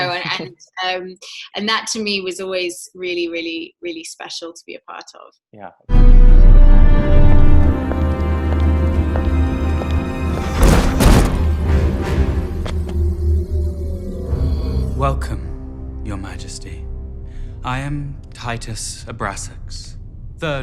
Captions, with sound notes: And that to me was always really, really, really special to be a part of. - Yeah. - (intense music) (footsteps) - Welcome, your majesty. I am, Titus Abrasax. The primary of the house of Abrasax.